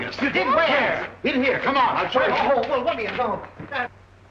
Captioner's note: excited reactions